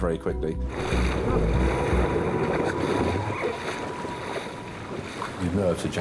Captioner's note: tense music continues; water sloshing